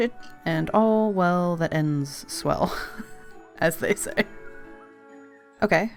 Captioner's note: laughs